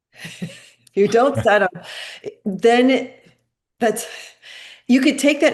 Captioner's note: chuckling